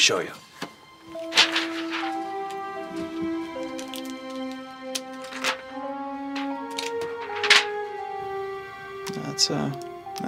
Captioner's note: paper moving back and forth